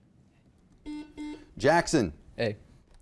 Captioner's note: buzzer dinging